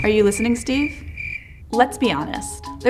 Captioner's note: crickets